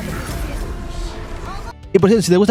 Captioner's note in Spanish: grito